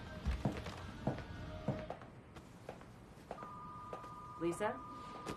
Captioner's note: phone ringing